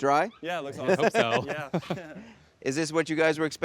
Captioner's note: Drew chuckles